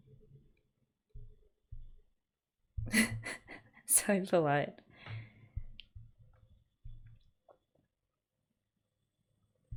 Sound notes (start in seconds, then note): 2.9 laughs